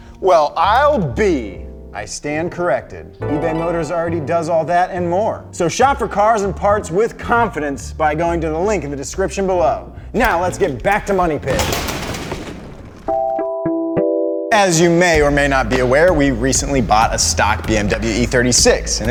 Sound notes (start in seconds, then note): 11.5 explosion; 13.1 whimsical music playing